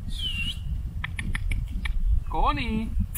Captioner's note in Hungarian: figyelem felkeltő hangok, fütty